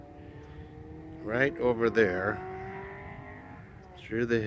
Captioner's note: motorcycle reving in background